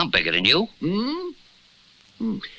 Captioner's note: Simon Gasps